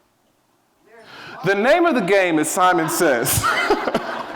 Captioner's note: laughs